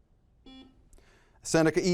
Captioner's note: buzzer